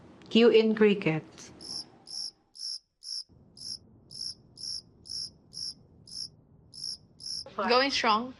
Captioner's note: crickets chirping